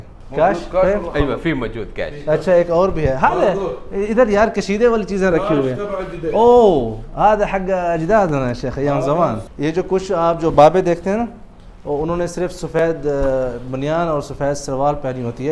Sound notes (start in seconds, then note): 0.3 Arabic; 7.3 arabic